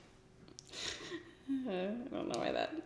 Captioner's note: sighs; giggles